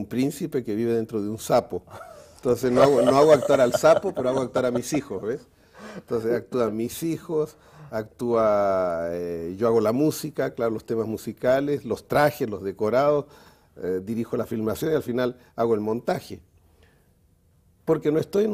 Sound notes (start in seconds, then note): 1.9 ríen